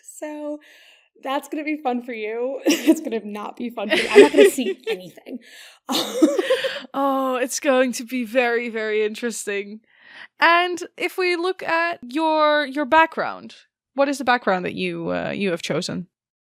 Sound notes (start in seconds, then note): 3.9 both laugh; 3.9 laughs